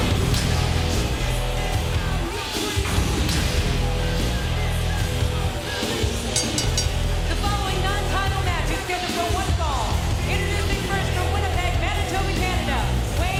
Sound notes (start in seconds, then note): 6.3 bell rings